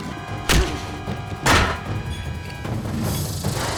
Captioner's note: fist thuds; head thuds; intense music